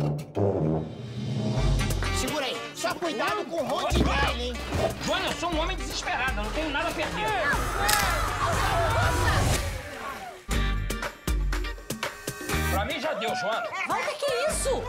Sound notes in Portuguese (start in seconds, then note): 7.5 gritos